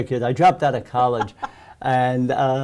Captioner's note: laughs